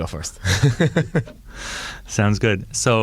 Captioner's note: laughing